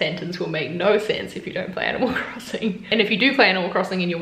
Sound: laughs

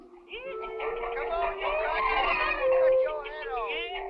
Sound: chickens clucking

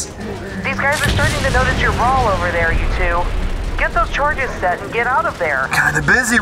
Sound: over Comms

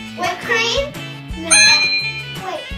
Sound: ding

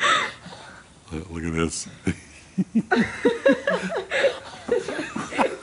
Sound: laughter

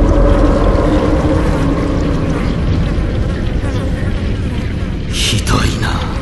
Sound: flies buzz around

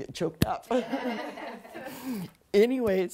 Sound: people laughing

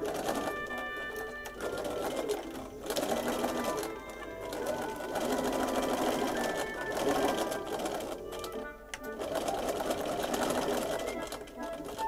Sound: machine whirrs; waltz plays

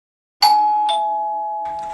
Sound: doorbell Rings

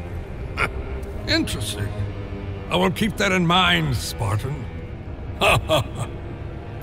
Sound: laughs

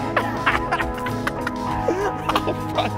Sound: laughs

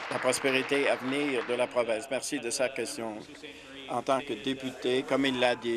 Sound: applause

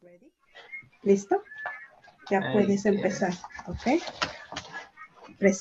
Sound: speaking Spanish

